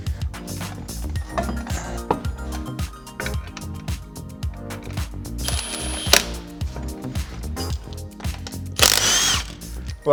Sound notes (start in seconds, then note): 0.1 upbeat music; 5.4 impact gun whirring